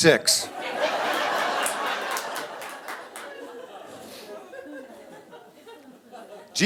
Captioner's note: audience laughing